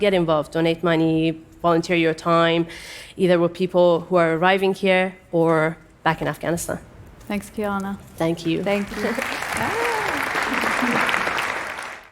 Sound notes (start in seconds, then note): 8.7 applause